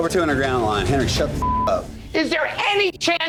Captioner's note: beep